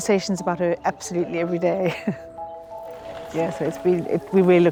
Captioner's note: chuckles